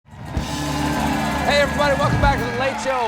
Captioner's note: cheers and applause